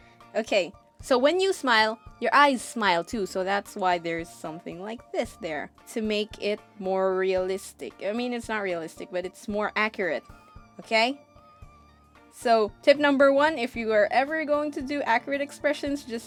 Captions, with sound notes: Okay, so when you smile your eyes smile too, so that's why there's something like this there to make it more realistic I mean it's not realistic, but it's more accurate. okey.....*silence* So tip number one If you are ever going to do accurate expressions